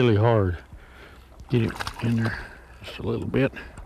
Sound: splash

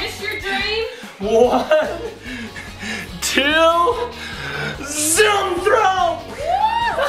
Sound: mom cheering

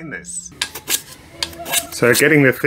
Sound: wood planing

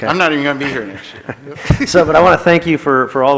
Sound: laughs

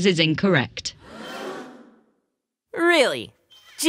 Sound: gasps

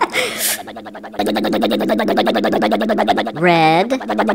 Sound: crane motor

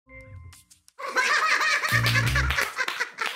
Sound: chuckling

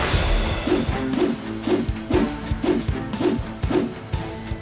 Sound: whooshing; suspenseful music

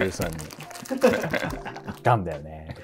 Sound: laughing

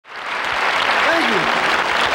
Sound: audience applauding

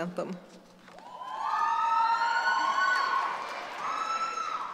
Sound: cheering

